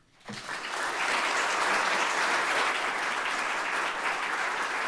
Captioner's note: audience applauding